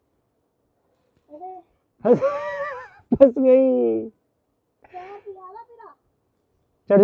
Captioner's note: laughs